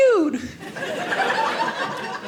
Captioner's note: audience laughing